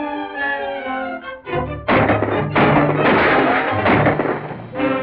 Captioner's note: gunshots